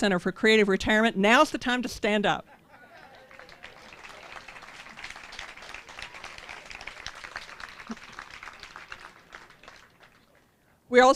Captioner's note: applause